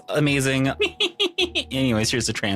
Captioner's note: laughs